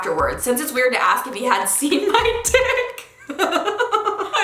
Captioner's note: laughing